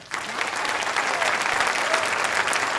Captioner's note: applause